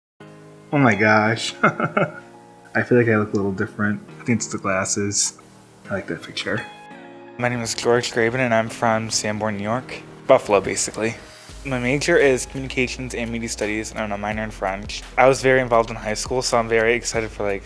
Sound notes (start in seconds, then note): 0.6 positive music; 1.3 laugh